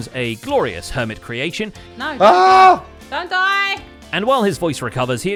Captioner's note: shouting